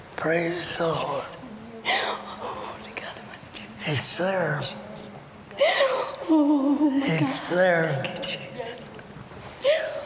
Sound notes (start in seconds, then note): 2.6 weeping; 6.3 weeping; 9.1 whispering